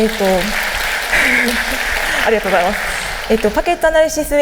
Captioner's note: applause; giggles